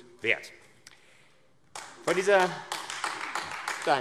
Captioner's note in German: Beifall AfD